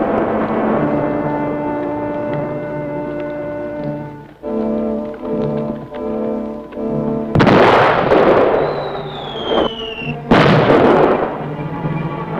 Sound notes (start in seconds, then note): 7.3 explosion; 8.3 whistling; 10.3 explosion